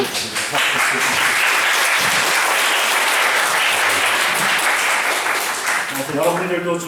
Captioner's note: second round of applause for another occasion to celebrate